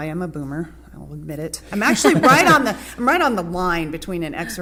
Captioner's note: laughter